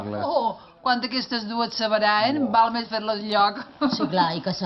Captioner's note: laughs